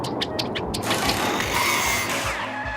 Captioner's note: mechanical whirring